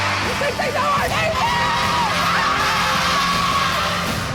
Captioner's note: shouting